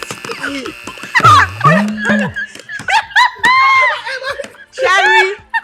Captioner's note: everyone laughs